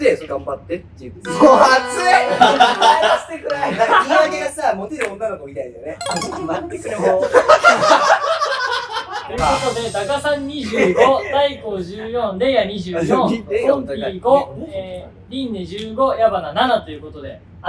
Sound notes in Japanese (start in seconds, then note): 7.1 女の子っぽく; 7.4 爆笑する声